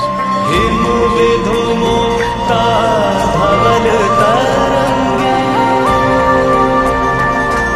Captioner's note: chanting